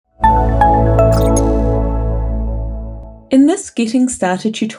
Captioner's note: bright electronic tones